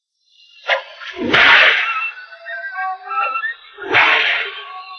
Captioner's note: cracking whip